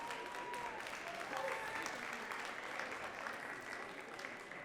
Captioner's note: audience claps